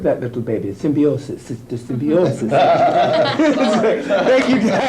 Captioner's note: laughing